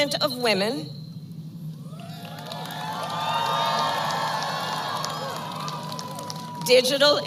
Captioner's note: applause